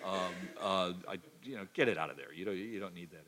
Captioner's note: cough